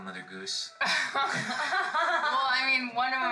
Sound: laughter

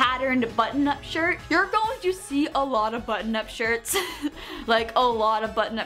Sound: laughs

